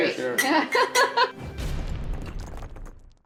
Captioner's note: laughs; logo whooshing